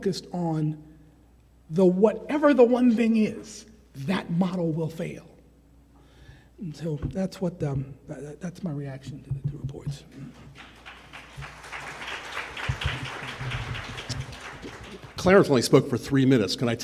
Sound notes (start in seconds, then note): 10.2 attendees applauding